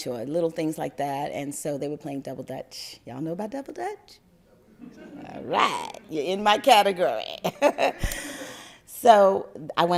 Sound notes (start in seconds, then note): 4.8 crowd laugther